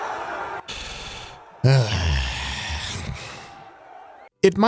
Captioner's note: all screaming; groaning